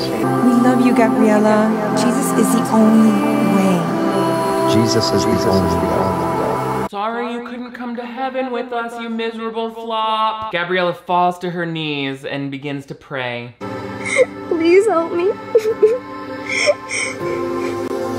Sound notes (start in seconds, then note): 14.0 sobs; 15.4 dramatic music